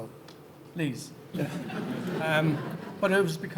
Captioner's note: audience laughing